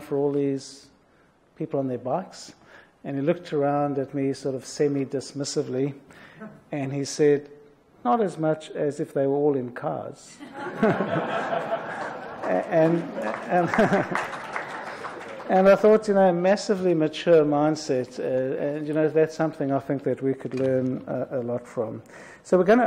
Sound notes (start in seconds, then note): 10.4 audience laughs